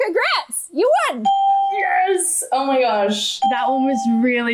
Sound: bell rings

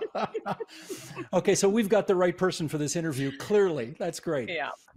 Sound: laughter

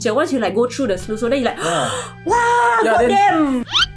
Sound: gasps

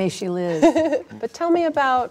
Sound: laughing

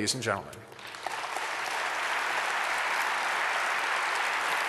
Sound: audience applause

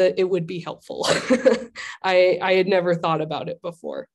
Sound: laughter

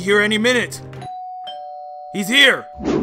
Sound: doorbell

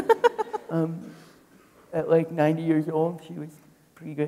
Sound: people laughing

